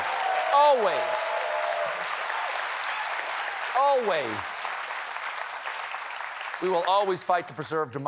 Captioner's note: applause